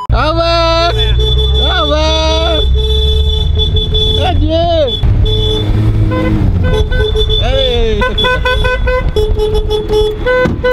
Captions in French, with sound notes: Au revoir, au revoir ! *klaxon* Adieu ! *klaxon à plusieurs reprises*